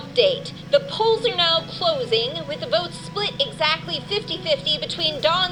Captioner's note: radio